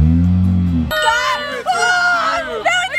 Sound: ding

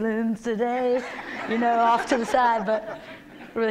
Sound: laughter

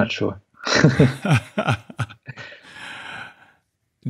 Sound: laughing

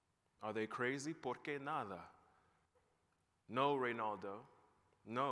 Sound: non-english

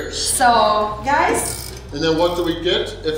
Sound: timer clicking

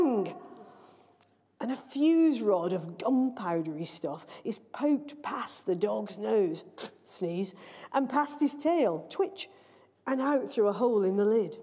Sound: sneeze

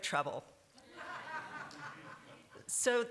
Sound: laughter

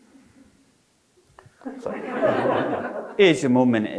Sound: audience laughing

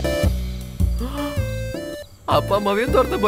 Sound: gasps

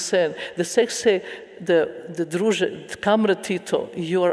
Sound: speaking in a foreign language

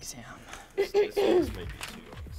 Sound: clears throat

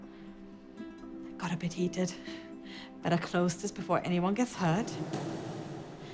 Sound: drawer closing

